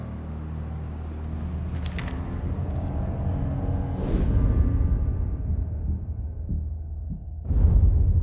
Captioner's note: door opens